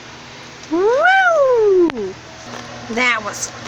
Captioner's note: exclaims